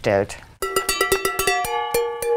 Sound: clattering chimes

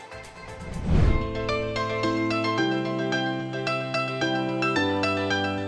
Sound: swooshing noise followed by music

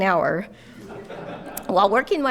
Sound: audience laughing

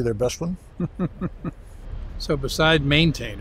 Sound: chuckles

